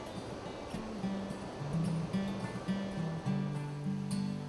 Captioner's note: rushing water